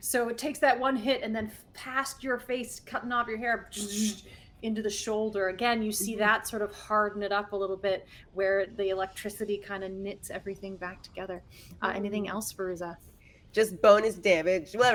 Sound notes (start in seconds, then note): 4.1 buzzes